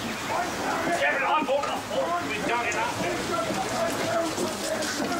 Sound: Borrowbills arguing distantly

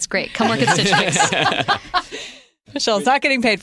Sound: laughter

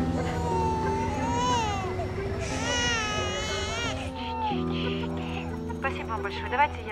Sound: baby cries

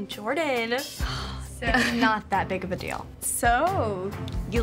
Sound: sighs

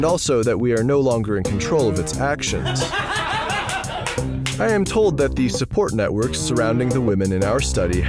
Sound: laughter

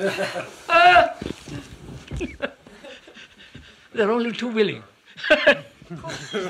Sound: laughs

